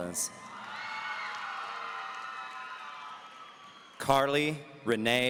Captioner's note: audience cheering